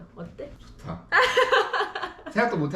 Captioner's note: laughing